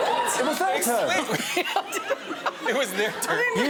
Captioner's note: laughs